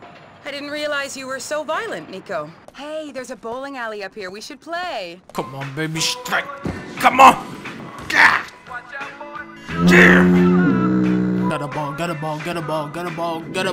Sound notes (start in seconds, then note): 9.6 foghorn